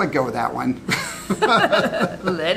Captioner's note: laughing